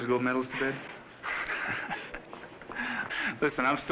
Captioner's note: laughter